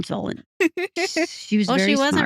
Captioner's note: laughing